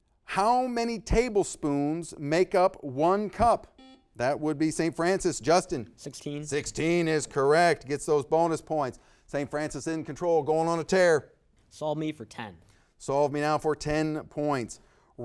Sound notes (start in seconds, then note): 3.7 buzzer beeping